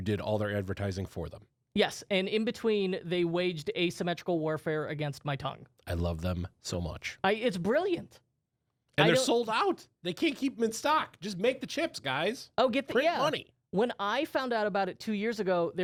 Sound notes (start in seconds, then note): none